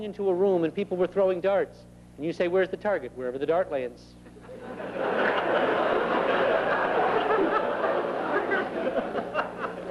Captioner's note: laughter